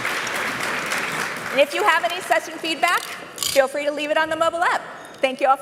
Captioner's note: applause